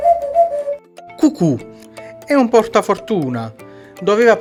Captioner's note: cuckoo